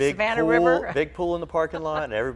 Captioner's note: laughs